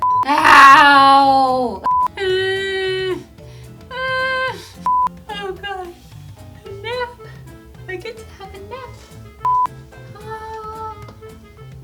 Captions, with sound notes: How?!? [wailing] [yawning] Oh gosh. Nap. I get to have a nap. [incoherent happy sound]